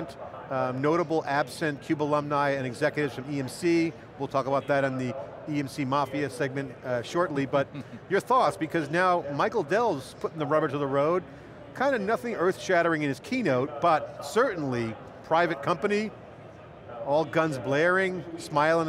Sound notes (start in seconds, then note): 7.5 chuckling